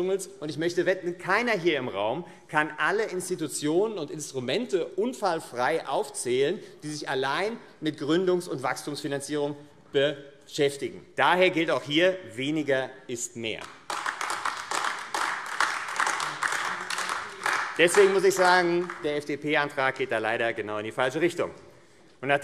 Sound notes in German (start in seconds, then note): 13.6 Beifall AfD